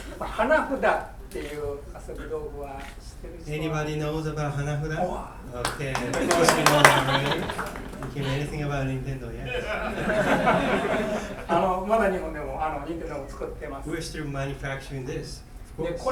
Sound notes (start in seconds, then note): 0.0 coughing; 0.3 speaking in foreign language; 5.0 speaking in foreign language; 5.5 laughing; 5.6 clapping; 9.6 laughing; 11.7 speaking in foreign language